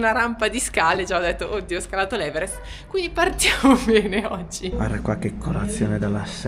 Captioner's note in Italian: risate